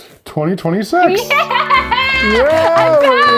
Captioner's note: laughs